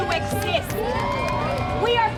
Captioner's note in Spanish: crowd cheering